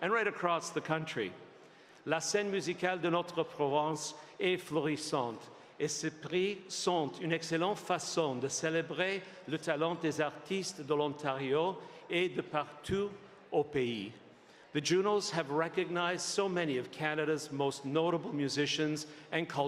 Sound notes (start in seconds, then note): 5.5 speaking French